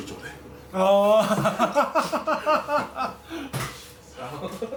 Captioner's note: laughs